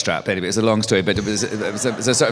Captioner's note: laughter